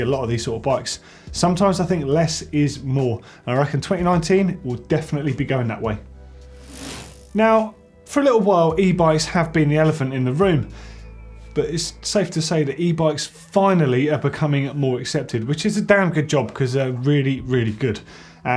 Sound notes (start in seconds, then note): 6.6 bike chain whirring